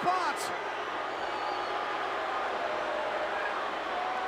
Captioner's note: crowd booing